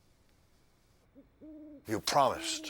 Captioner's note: owl hooting